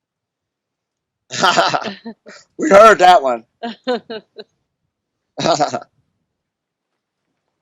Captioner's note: laughs